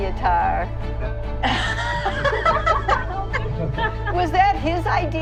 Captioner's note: all laugh